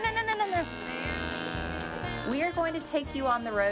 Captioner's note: cow moos